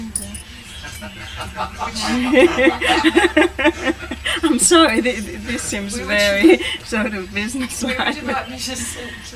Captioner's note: laughter